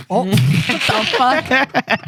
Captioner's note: laughter